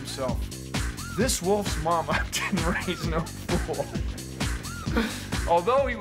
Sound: laughing

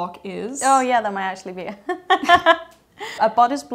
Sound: laughs

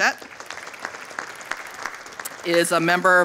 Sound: audience applauding

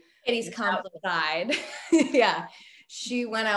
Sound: laughs

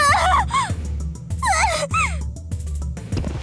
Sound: pained cries; very pained cry

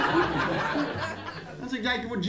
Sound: laughter

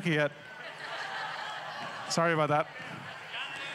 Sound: audience laughs

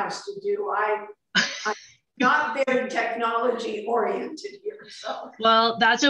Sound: laughter

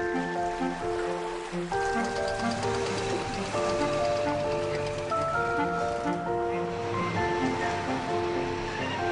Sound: water sounds; sound of mechanical fish crane

